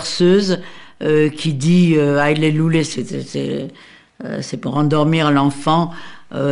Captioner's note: foreign language